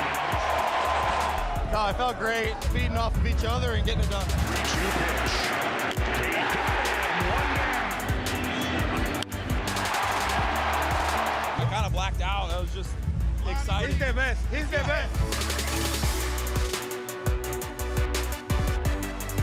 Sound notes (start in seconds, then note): 1.5 cheering and Applause